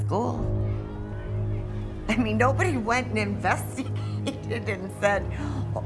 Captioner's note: laughing